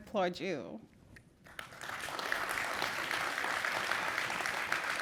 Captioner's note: applause